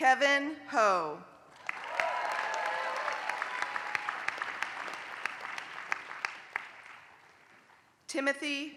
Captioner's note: applause